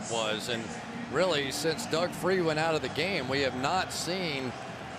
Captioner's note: crowd cheering